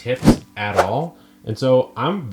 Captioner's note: logo whooshing